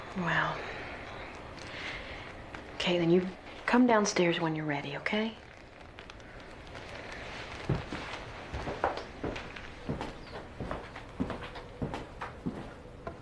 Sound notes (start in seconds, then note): none